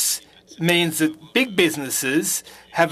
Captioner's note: speaking French